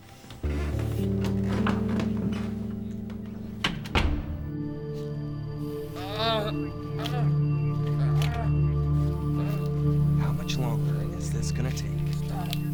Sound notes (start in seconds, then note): 3.0 door closing; 6.0 Junior moaning in agony